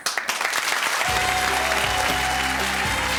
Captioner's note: audience clapping